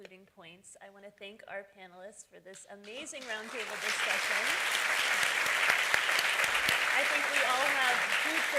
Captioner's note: appaluse